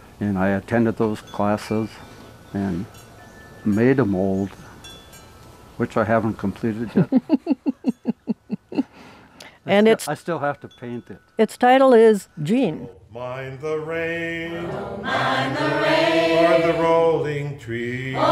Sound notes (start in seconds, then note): 6.8 laughing; 14.2 laughing